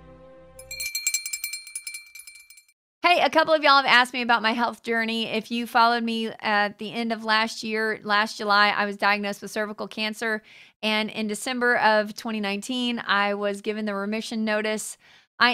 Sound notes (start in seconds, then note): 0.6 bell tinkling